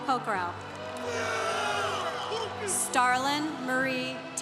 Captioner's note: congregation cheering